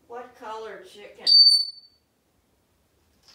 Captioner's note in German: wistling